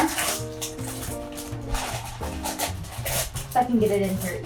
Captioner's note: paper crinkling